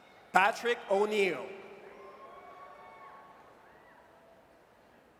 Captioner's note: audience cheers